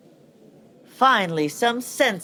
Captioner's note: voice from afar